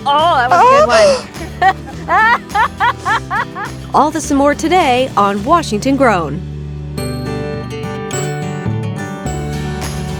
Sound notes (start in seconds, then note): 2.1 laughing; 6.9 bright music